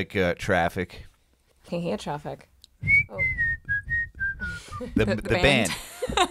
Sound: whistling

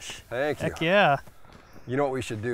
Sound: pat

